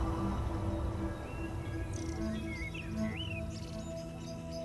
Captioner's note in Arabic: زقزقة الطيور